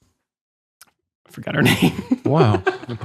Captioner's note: laughs